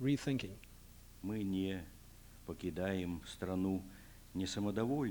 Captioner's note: non-english speech